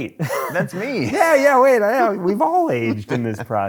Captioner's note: laughs